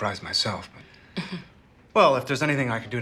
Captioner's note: chuckling